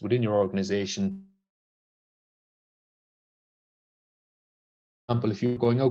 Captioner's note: sound cuts out